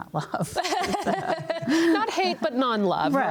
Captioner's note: panel laughs